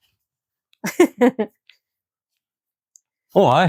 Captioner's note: unicorn laughs